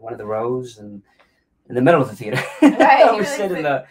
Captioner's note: laughs